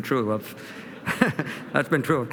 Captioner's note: laughter